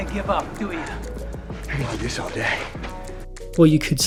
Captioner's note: Steve Rogers exasperated